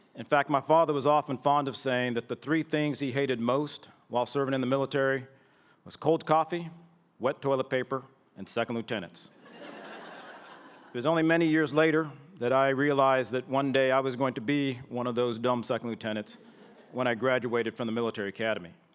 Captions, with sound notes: In fact, my father was often fond of saying that the three things he hated most while serving in the military was cold coffee, wet toilet paper, and Second Lieutenants [laughter]. It was only many years later that I realized that one day I was going to be one of those dumb Second Lieutenants when I graduated from the Military Academy.